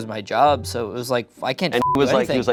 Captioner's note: beep